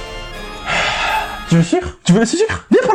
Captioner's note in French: soupir